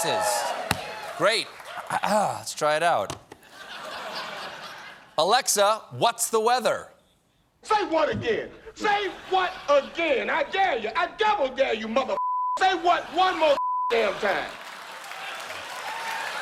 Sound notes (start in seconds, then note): 2.3 clears throat